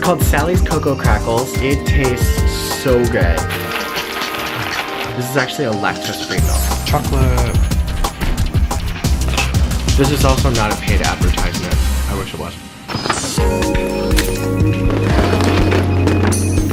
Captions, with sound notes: It's called Sally's Cocoa Crackles. It tastes so good. This is actually a lactose free milk. Chocolate! (crunching) This is also not a paid advertisement. I wish it was. (upbeat theme music)